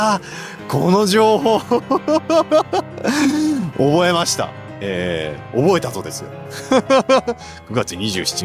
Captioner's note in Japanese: 笑い; 笑い